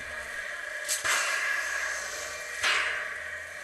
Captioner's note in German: Zischen, blecherne Schläge